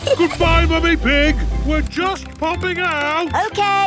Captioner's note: giggles